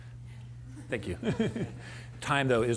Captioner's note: laughter